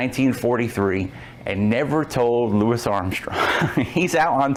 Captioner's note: laughs